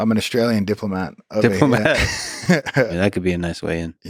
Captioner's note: both laughing